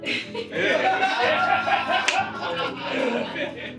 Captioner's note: all laughing